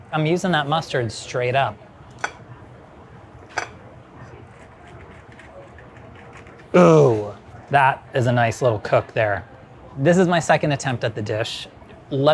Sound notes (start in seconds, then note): 3.5 plate clattering; 4.5 knife grating